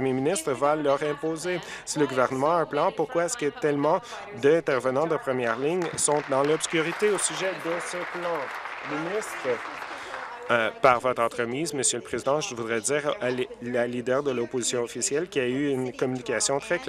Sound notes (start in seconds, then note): 10.9 applause